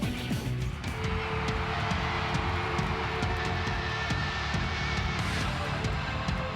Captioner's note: upbeat music; audience cheering